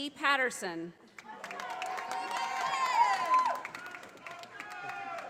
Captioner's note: audience applauding